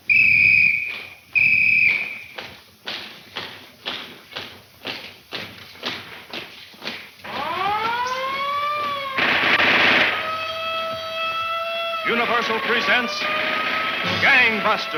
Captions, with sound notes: (whistle blowing aggressively) (alarm wailing) (guns firing aggressively) - Universal presents, Gang Busters.